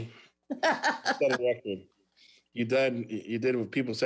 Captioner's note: laughs